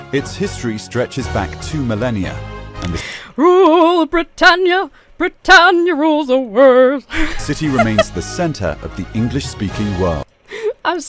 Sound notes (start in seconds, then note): 7.1 laughs